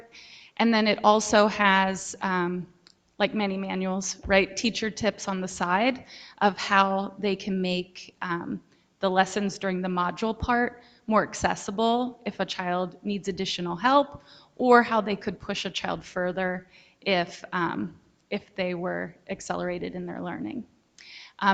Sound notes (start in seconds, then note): none